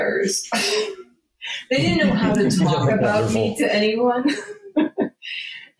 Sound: laughing

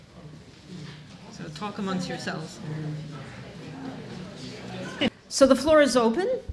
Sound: audience murmuring

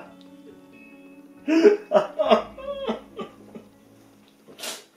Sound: sobbing; sobbing

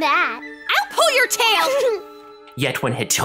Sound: Merle snickers

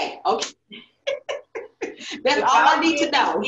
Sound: laughs

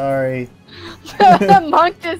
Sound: both laughing

